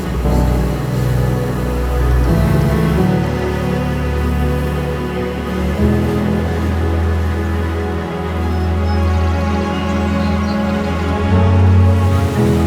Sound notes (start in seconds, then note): 0.1 wind noise, the sigh of the waves; 8.2 birdsong